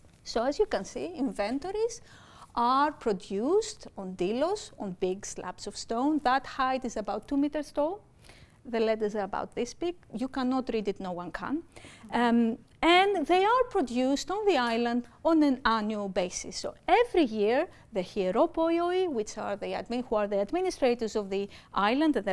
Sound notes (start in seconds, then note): 18.5 speaking greek